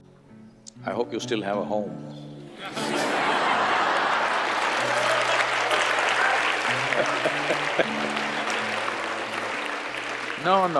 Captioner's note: laughter/Applause